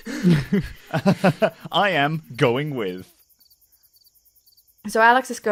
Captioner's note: chuckles